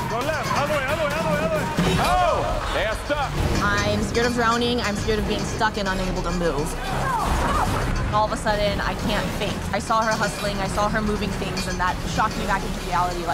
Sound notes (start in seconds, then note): 0.0 metal clanking; 0.0 water rushing; 7.4 metal clanking